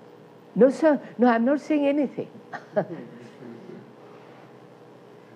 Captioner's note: laughs